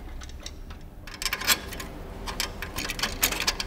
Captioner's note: metallic noises